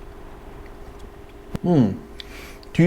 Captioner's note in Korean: 후루룩